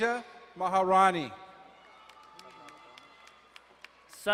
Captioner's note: crowd cheering and applauding